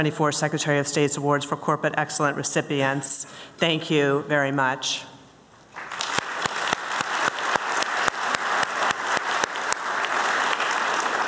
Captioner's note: applause